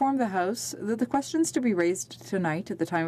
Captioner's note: speaking in french